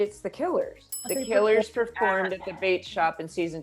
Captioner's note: bells ring